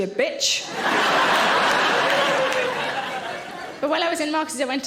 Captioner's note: audience laughing